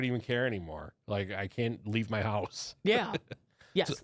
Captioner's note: laughs